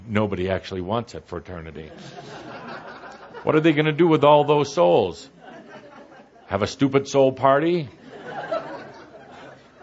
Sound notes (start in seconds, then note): 1.9 laughter